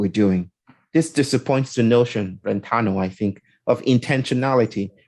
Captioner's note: none